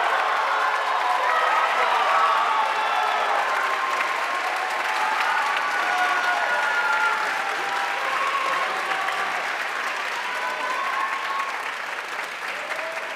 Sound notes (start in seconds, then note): 0.8 audience cheering and applauding